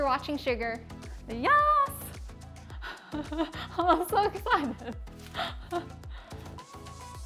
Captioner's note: laugher